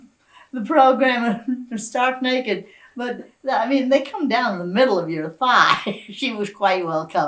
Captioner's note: laughs